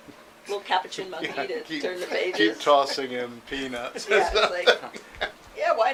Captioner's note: chuckles